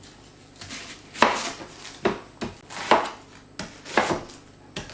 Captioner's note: chop. chop. chop